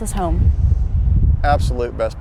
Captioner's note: wind whistling